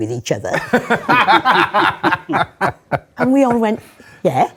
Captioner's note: laughter